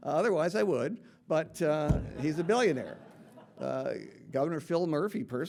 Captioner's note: audience laughing